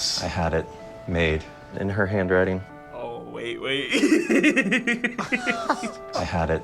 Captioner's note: laughs